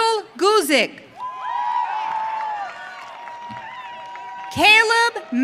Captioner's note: audience cheering